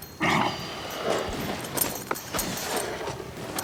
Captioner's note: grunts